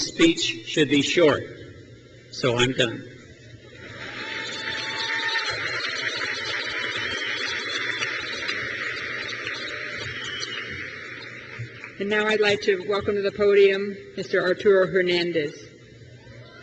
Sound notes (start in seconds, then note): 3.5 crowd cheers